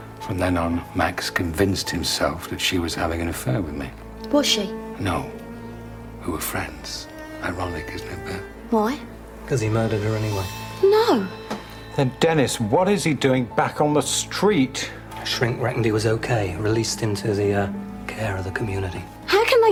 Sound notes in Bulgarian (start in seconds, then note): none